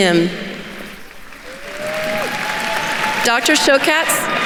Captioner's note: attendees cheering and applauding